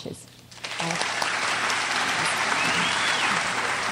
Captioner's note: crowd applauds